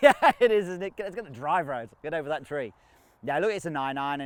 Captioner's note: laughs